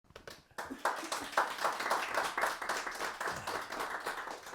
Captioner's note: audience claps